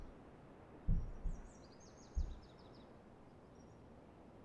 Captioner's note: footsteps